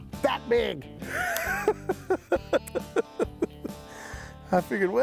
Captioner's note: cackles